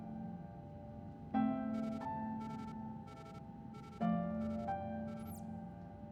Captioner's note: device beeping